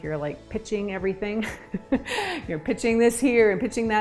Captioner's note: chuckles